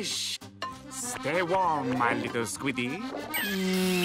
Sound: kissing

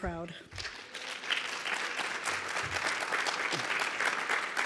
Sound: audience applauds

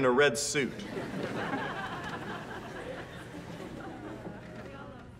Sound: laughter

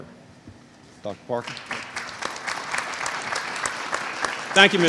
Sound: applause

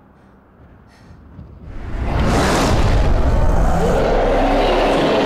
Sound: creature roaring

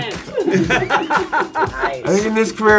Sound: group laughing

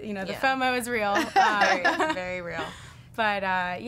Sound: all laughing

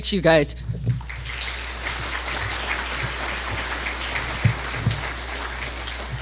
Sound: applause

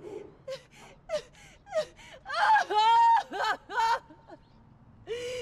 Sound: sobbing and wailing loudly

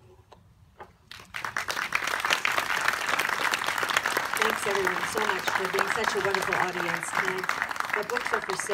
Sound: applause

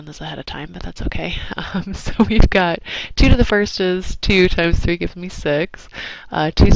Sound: laugh

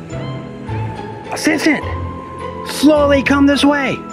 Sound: yelling in a whisper

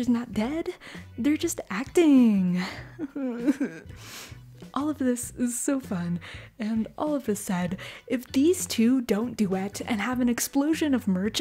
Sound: fake sob

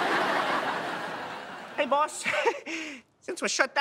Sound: chuckles

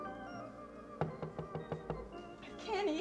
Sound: door knock

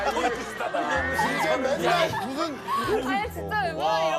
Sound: just laughs

